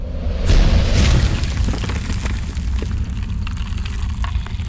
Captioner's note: loud rumbling and cracking